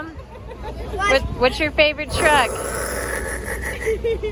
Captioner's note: rocket noises